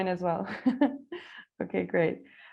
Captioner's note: laughter